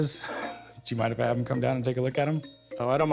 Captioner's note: chuckles